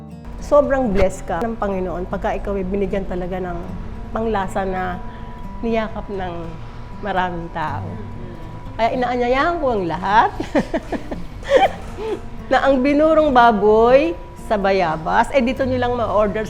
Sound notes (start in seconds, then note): 10.3 laughs